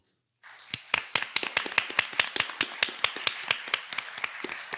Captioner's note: participants clapping